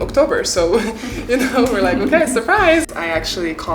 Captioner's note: chuckling